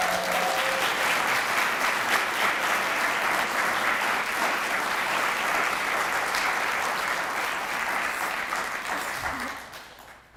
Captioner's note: applause